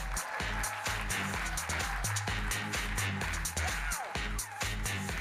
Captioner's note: electronic dance music; audience applauding; electronic dance music